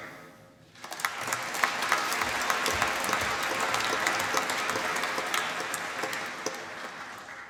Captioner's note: applause